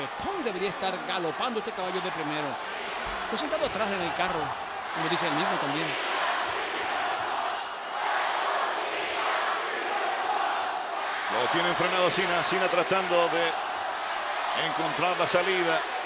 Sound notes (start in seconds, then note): 5.9 applause